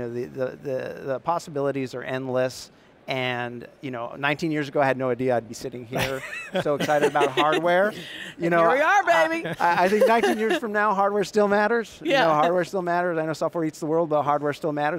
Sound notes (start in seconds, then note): 6.0 laughing; 9.2 laughs